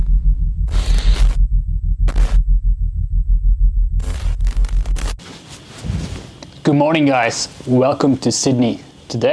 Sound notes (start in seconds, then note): 0.0 static crackling